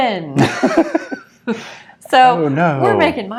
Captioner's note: laughing